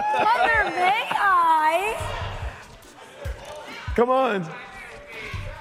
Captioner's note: laughter